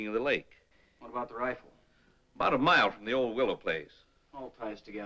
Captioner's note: none